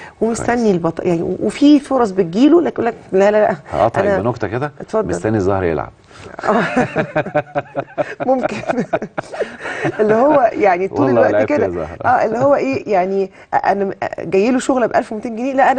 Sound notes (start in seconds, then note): 8.3 laughs!